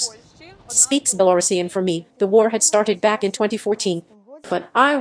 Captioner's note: speaks Belorussian